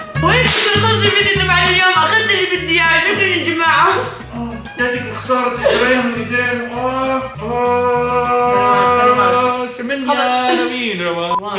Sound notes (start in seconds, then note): 5.6 moans in pain; 7.5 shouts; 9.8 sings song